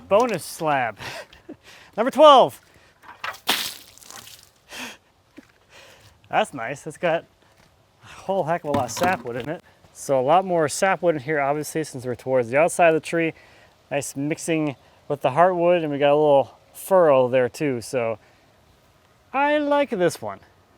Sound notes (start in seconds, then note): 3.2 water splashing